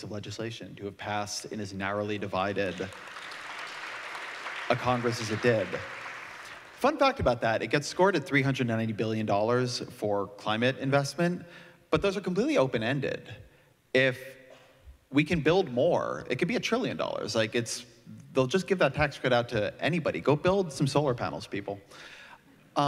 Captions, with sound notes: legislation to have passed in as narrowly divided, [APPLAUSE] a Congress as it did. Fun talk about that it gets scored at $390 billion for climate investment, but those are completely open-ended. If we can build more, it could be a trillion dollars. They'll just give that tax credit out to anybody, go build some solar panels people.